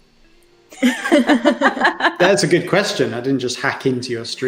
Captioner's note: laughter